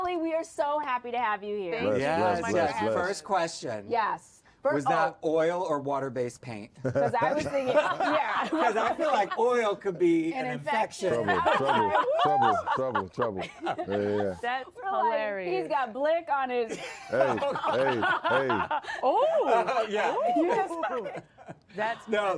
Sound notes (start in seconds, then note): 16.8 all laughing